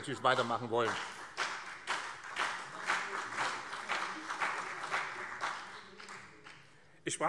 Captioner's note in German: Beifall BÜNDNIS 90/DIE GRÜNEN